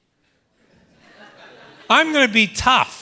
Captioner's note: laughter